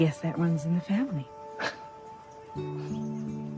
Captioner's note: scoffs